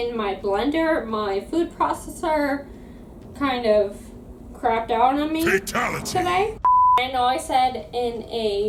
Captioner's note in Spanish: fatalidad * voz de combate mortal